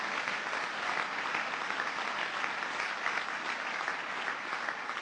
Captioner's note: applause